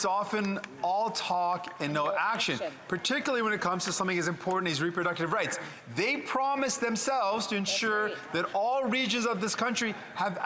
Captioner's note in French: voix de l'interprète